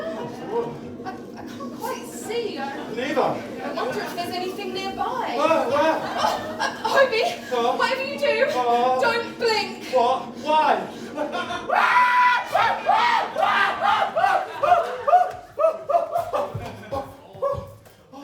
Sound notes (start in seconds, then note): 11.7 Hobie screams